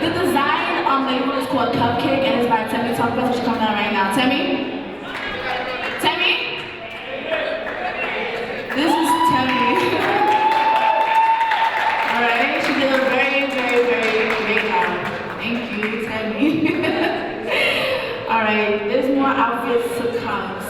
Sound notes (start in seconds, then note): 10.4 audience cheering